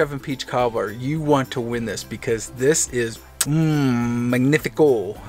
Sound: kiss sound

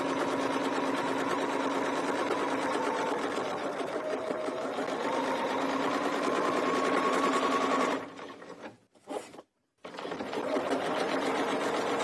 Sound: sewing machine whirring

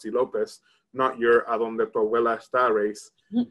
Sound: speaks in Spanish

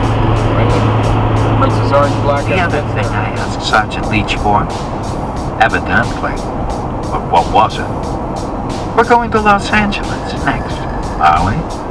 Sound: jack reacher audio book playing on cd player

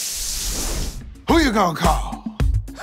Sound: air whooshing

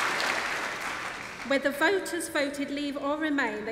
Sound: applause

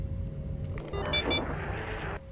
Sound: sound cue for airlock destabilization, again

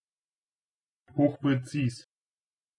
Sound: fast Pronunciation

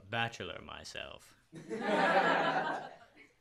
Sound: laughter

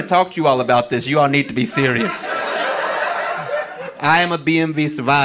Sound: audience laughing

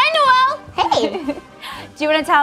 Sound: laughs

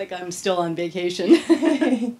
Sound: laughter

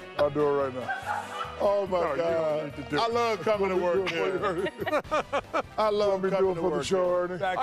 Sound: laughter

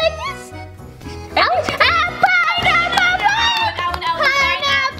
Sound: shouting

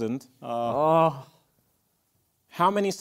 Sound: groan

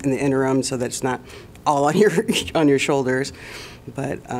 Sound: laughter

